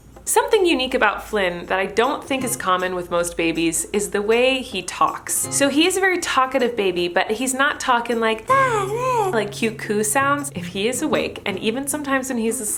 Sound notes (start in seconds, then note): 8.5 babbling noises